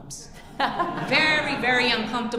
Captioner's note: audience laughing